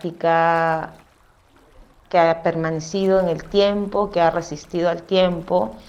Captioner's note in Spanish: sonidos de agua, tronco árbol y voz off femenina #6